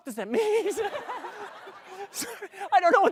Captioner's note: laughter